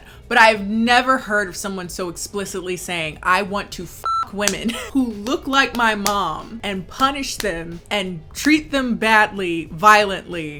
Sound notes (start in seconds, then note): 4.0 beep